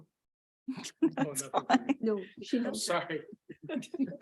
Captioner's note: chuckles